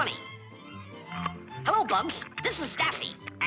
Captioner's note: carrot crunching